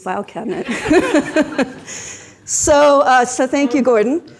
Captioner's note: everyone laughs